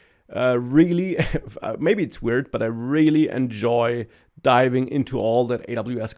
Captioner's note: laughs